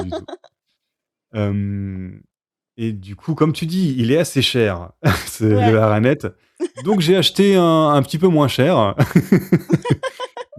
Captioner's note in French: rires; rires